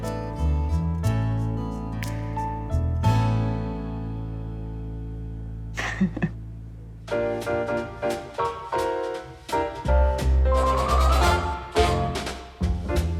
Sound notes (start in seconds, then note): 5.8 Adelle chuckles; 7.0 upbeat music